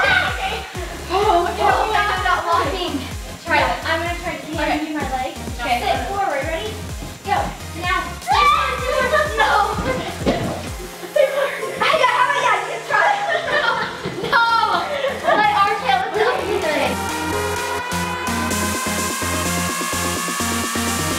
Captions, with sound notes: (shouts) - I can't get that without locking. - Alright, I'm gonna try giving you my legs. - Okay. - Sit, forward, ready, go, now. (shrieks) - I got it, that was a good try. (laughter) (energetic electronic music)